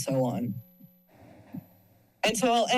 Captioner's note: pause